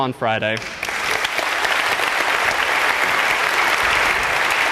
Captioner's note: applause